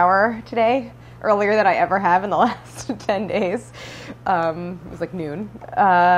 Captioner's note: laughs